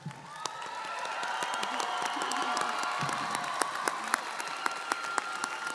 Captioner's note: audience cheering & applauding